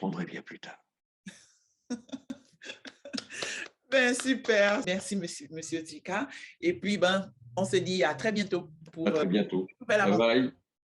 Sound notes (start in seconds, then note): 1.9 laughs